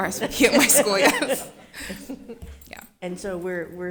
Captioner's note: everyone laughing